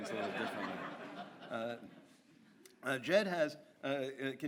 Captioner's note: audience laughs